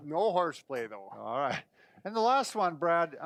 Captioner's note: laughing